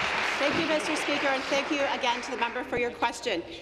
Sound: applause

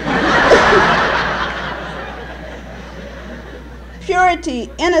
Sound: laughter

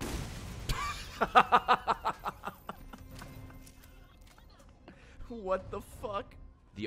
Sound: laughs

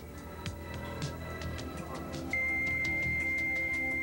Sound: modem connecting

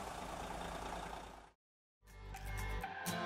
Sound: engine turning; upbeat music

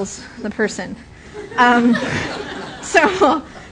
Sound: laughter

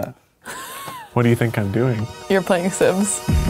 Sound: laughing

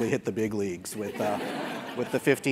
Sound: laugh

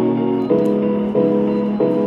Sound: beep beep

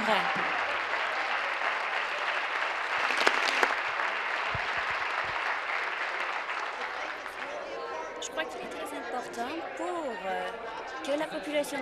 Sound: applause

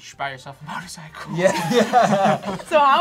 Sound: laughs

